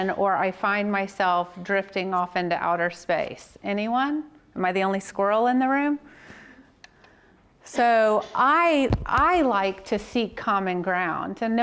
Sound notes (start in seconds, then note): none